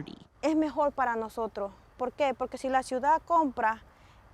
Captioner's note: speaking Spanish